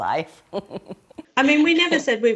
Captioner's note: chuckling